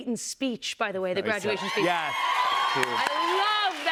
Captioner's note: cheers and applause